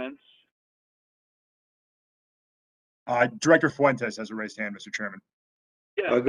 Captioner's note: A pause